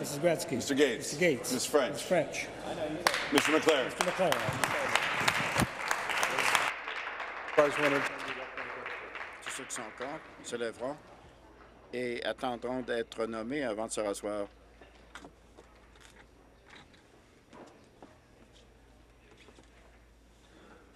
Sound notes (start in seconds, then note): 8.0 applause